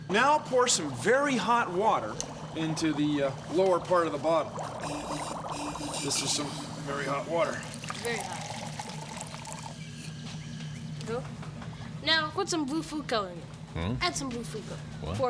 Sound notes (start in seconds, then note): 4.6 water bubbling